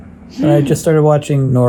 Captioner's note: gasps